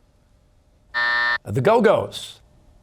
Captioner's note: buzzer